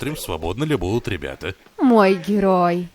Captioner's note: men laughing